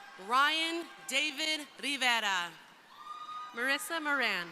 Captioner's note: crowd applauding; crowd cheering